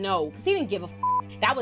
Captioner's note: beep